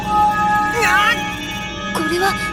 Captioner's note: pained cry